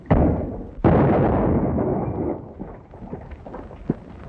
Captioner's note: loud blaring explosion